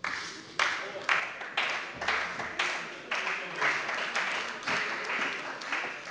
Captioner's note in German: Beifall bei der CDU und dem BÜNDNIS 90/DIE GRÜNEN